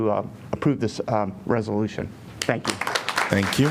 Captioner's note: applause